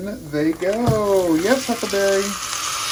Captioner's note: sizzling